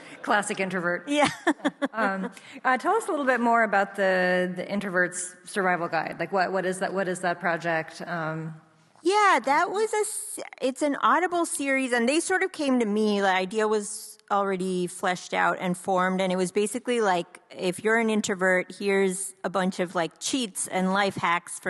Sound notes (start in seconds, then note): 0.0 both laughing; 1.2 laughs